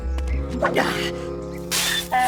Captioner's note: heaving